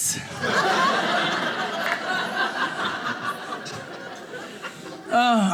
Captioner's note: audience laughing